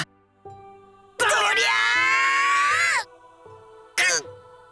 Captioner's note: even harder lifting grunts